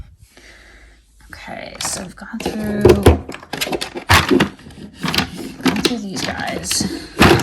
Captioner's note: items thudding